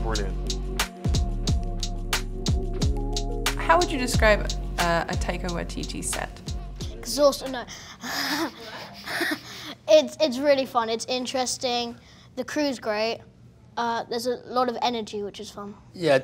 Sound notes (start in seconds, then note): 0.0 percussive electronic music; 7.9 laughs